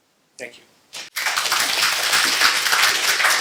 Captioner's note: applause